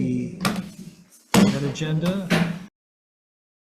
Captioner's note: gavel taps